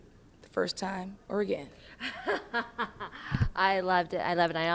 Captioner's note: laughing